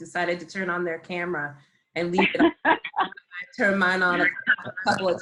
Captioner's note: laughs